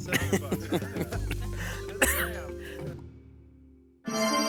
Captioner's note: laughs; relaxing music